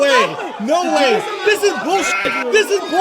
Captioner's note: sheep noise